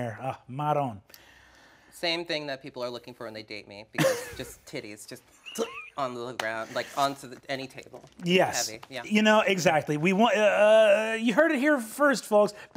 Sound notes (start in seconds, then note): 5.5 laughs